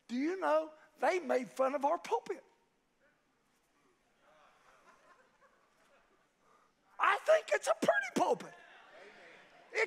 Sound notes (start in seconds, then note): 4.2 congregation laughs